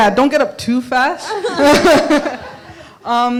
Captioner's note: laughs